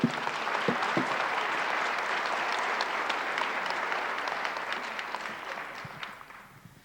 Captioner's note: applause